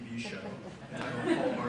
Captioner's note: audience laughs